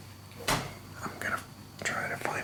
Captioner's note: door clunks